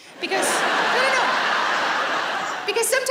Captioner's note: laughing